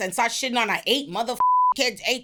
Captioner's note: beep